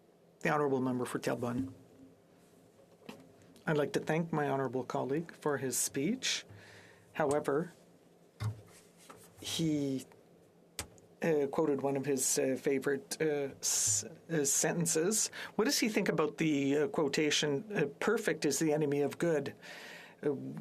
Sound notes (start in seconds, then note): 6.8 speaking French